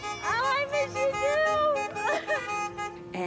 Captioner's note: honks